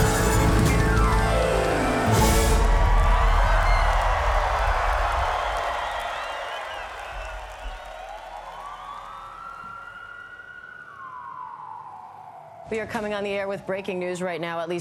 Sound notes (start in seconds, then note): 2.9 cheering continues; 7.9 siren wailing